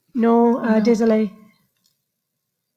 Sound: moderator speaking French

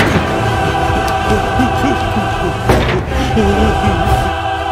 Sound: doors opening; sullymakescowardnoises

